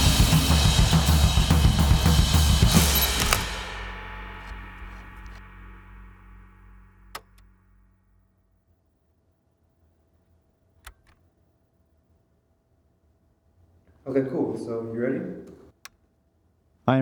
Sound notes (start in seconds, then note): 0.0 percussion music continues; 2.7 camera clicks; 3.5 percussion music ends; 7.3 frame clicks; 10.8 framer clicks